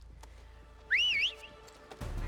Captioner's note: whistle